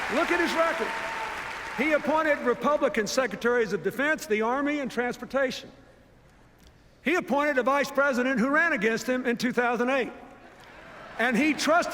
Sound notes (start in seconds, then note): 10.6 laughter, applause